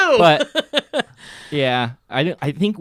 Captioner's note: laughing